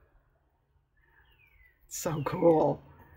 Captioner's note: sarcastically